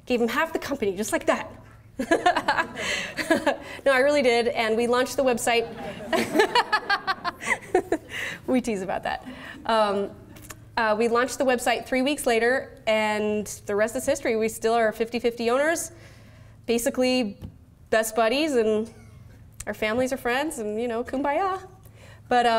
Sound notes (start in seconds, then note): 5.6 laughs